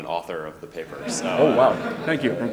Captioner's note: audience laughing